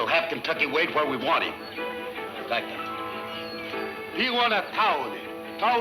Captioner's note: speaking in foreign language